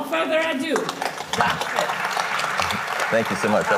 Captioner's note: audience applauding